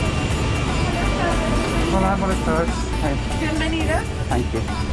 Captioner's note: speaking Spanish